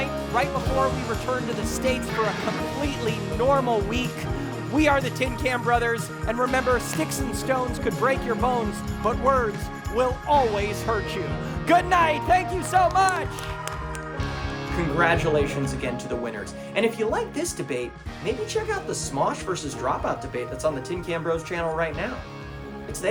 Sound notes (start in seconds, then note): 13.6 audience applauding